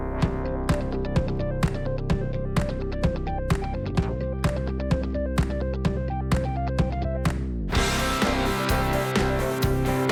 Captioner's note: fair ride sounds